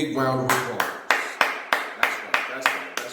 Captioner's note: clapping